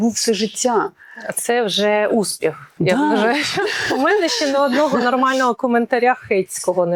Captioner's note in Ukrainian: сміх